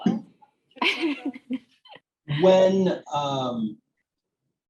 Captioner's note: laughs